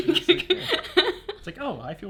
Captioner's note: laughs